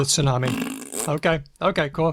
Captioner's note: blows a raspberry